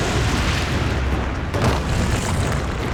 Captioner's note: thudding